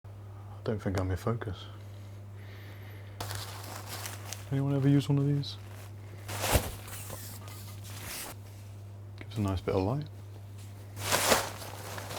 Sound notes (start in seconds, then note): 6.2 paper rattling